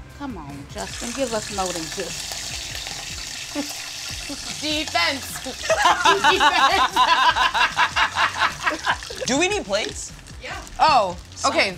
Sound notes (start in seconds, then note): 5.4 laughing